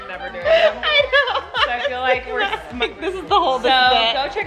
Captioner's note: laughing